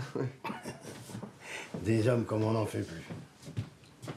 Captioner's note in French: Ils rient